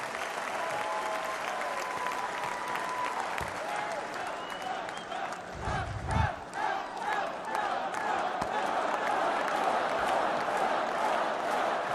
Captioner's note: applause